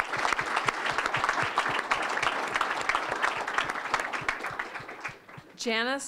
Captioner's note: applause